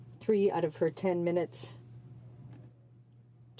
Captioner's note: speaking french